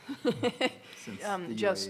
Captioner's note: laughs